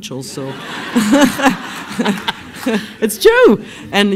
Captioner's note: laughs